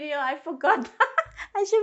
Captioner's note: laughs